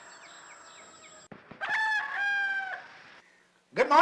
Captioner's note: birds tweeting; rooster cawing